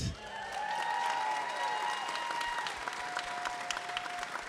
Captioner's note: audience applauding